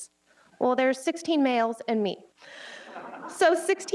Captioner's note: audience laughs